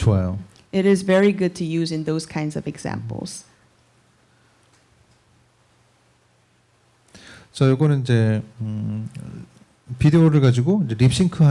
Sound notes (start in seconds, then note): 7.3 speaking korean